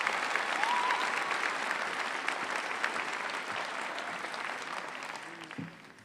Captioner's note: applause